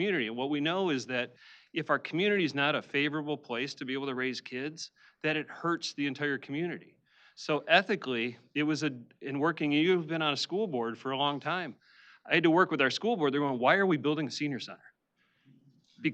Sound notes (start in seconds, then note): none